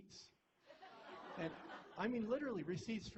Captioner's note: laughter